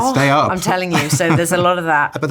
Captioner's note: chuckling